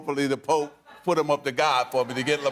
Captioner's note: laughter